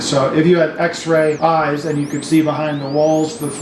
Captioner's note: none